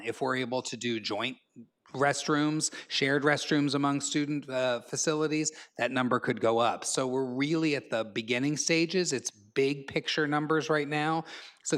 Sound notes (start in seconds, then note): none